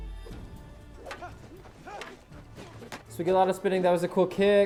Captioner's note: fighters shouting